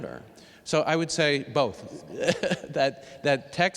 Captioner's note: laughs